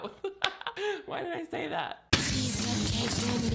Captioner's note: laughs